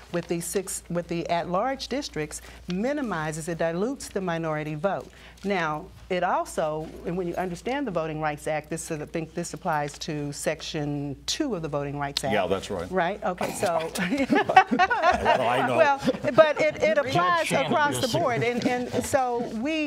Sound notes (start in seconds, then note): 13.8 laughter